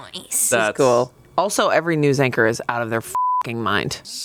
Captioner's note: beep